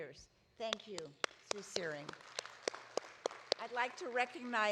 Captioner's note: audience applauding